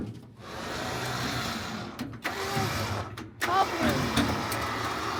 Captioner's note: machine whirring